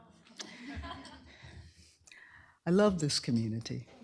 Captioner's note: laughter